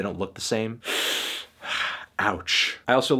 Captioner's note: inhales sharply